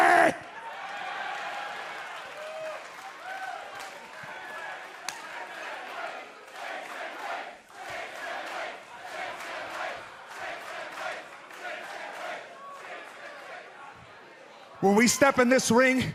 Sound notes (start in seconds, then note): 4.0 cheers and applause; 12.2 fans chanting